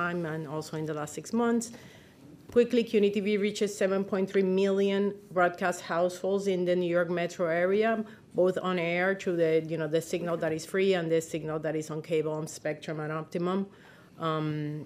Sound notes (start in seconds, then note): none